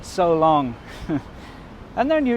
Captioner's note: chuckles